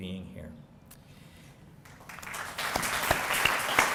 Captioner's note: applause